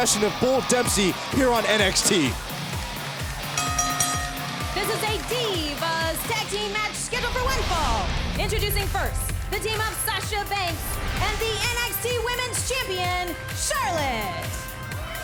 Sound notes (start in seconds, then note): 2.5 upbeat music; 3.5 bell dinging; 15.0 crowd cheering